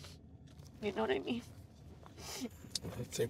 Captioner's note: sniffles